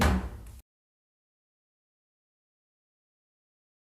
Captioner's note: gavel banging